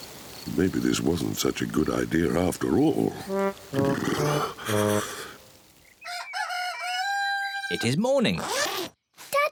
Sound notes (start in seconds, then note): 3.5 shivering; 6.0 cockerel crows